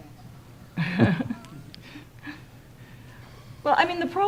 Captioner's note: laughing